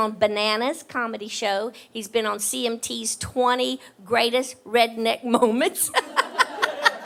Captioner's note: laughs